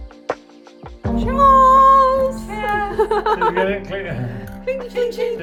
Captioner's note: laughing